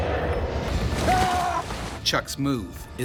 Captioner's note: screams; voiceover